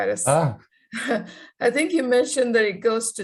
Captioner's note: laughing